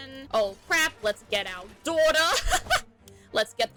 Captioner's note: laughs